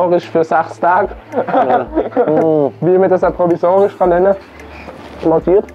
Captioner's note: laugh